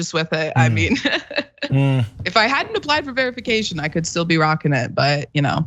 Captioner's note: laugh